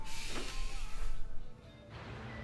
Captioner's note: defeated sigh